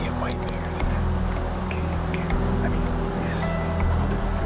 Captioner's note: whispering